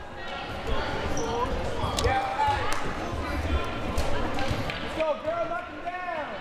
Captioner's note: audience chattering and yelling